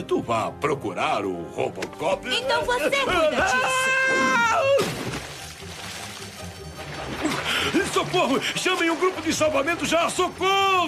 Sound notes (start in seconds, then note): 5.3 yelps